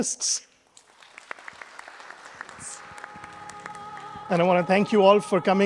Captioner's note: audience applauding